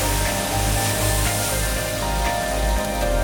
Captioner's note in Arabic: ضوضاء البخار